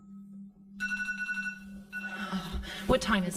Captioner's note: phone rings